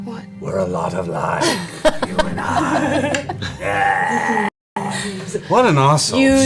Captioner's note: in an exaggeratedly evil voice; normal voice